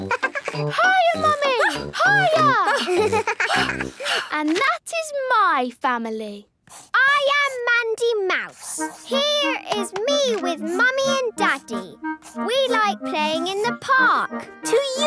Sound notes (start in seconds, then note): 0.0 giggles; 2.7 panting